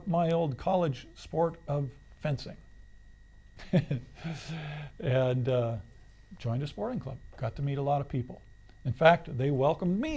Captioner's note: laughs